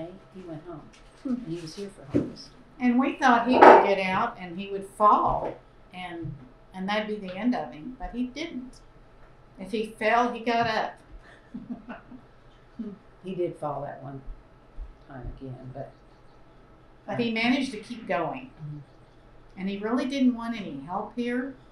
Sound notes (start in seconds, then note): 11.4 laughter